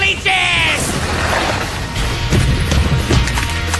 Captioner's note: explosion